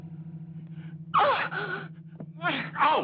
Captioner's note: cry of alarm